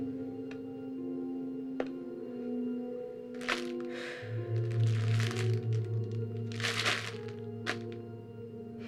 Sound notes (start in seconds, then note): 3.8 exhaling; 6.2 soft music